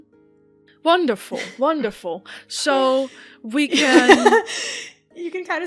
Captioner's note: chuckles; Alyssa laughs